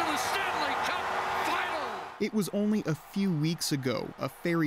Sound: cheers and Applause

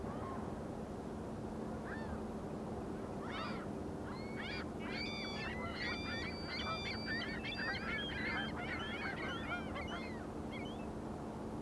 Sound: birds chirping

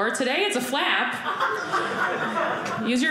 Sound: audience laughing

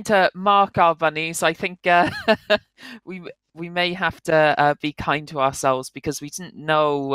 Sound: laughs

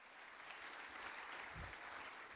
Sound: applause

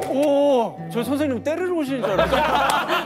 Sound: haha

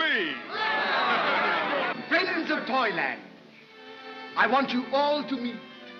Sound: crowd cheers

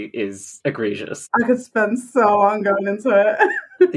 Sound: laughs

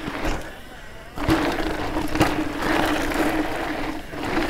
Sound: trail crunches

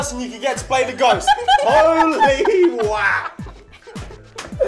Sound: laughs

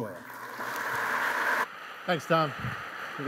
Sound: applause

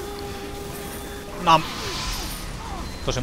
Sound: nom

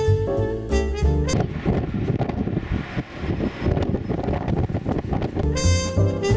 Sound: heavy wind noise

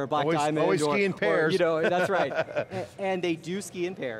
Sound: laughs

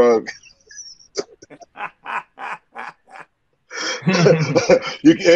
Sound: laughing

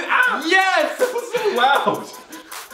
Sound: Collins screams

